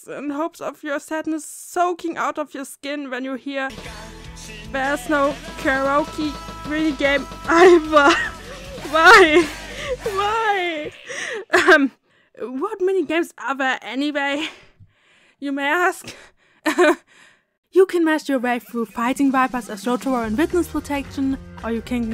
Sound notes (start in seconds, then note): 16.0 embarassed cough